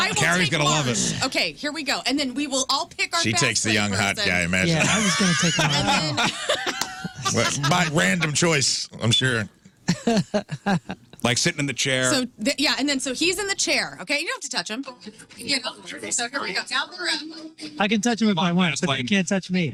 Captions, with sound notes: Carrie's gonna love it. Okay, here we go. And then we will all pick our best favorite thing. She takes the young hot guy, I imagine. Yeah, I was gonna take the one. (Laughing) My random choice, I'm sure. Like sitting in the chair. Yeah, and then so he's in the chair, okay? You don't have to touch him. (Upbeat Music) You know, so here we go, down the rep. I can touch him if I want, but they can't touch me.